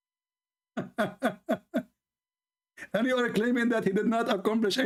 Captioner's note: Ketawa